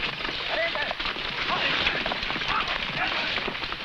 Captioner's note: men shouting